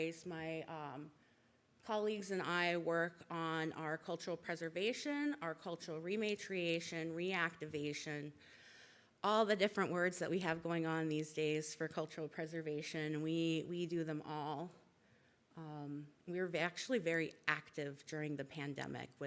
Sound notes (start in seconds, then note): none